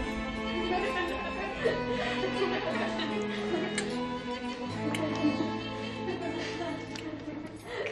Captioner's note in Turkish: Gülüşüyorlar